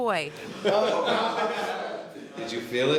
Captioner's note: pair laughs